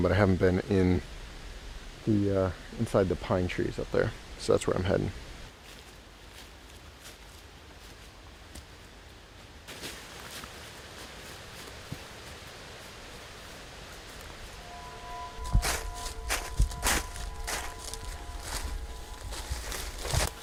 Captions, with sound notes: but I haven't been in the inside the pine trees up there. So that's where I'm heading. (leaves crunching) (soft ominous music) (leaves crunching)